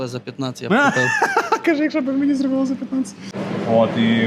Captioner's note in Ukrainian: сміх